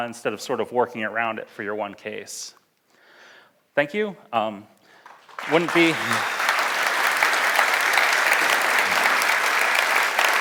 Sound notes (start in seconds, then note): 5.0 audience applauds; 5.9 laughs